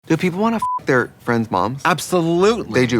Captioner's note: beeping